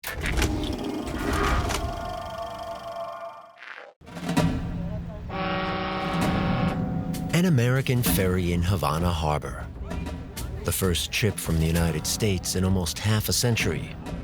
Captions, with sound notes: [boat horn bellows] An American ferry in Havana Harbor, the first ship from the United States in almost half a century.